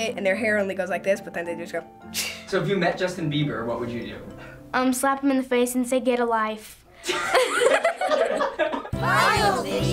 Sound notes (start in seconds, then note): 7.0 and crew laugh